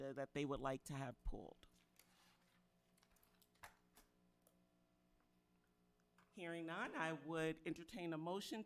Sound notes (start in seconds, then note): 2.8 papers rustling